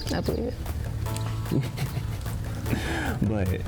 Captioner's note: chuckles